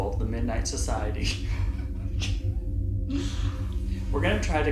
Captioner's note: laughs